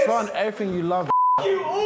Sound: swearing

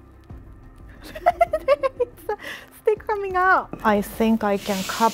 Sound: laughing

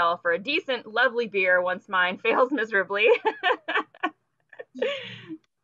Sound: laughing

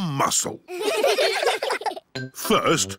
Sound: all giggling

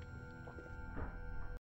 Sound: door opens, closes

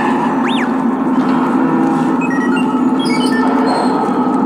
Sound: door banging and creaking; R2-D2 beeping

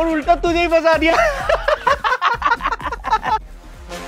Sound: laughing

